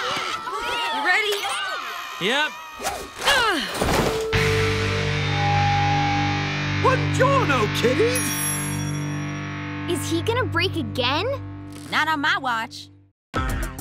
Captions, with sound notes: - You ready? - Yep! [groaning] Bongiorno, kiddies! - Is he gonna break again? - Not on my watch.